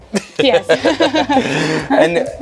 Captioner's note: both chuckle